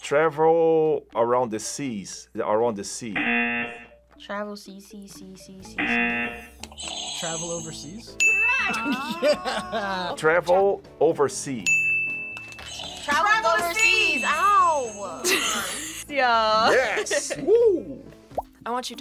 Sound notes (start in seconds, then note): 3.1 buzzer; 5.8 buzzer; 5.8 buzzer rings; 8.1 bell rings; 11.6 bell rings; 12.6 buzzer rings; 15.2 laughs